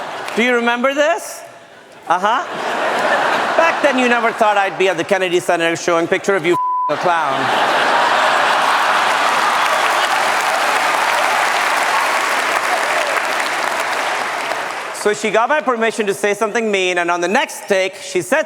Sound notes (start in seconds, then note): 9.2 laughter & applause